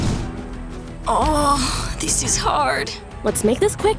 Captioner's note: moaning